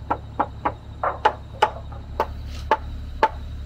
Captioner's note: hammer tapping